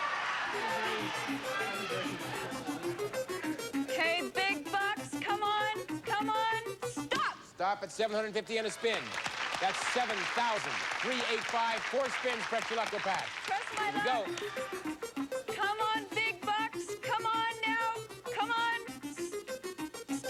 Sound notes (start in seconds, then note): 0.5 upbeat arcade game music; 8.8 cheers and applause